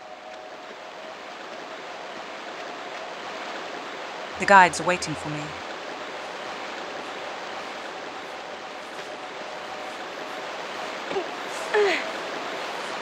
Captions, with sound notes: The guides are waiting for me. *Loud water noises*